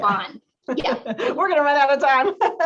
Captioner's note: laughter